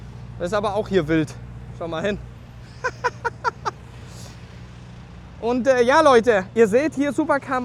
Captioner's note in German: gelächter